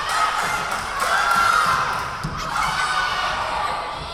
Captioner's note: chanting